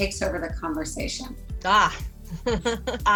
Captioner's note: laughs